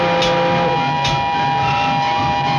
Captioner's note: steam whistle